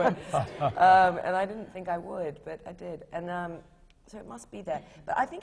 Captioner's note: laughter